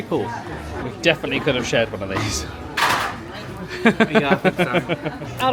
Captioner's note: laughing